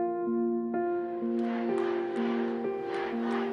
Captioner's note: crowd